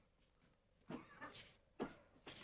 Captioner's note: coughs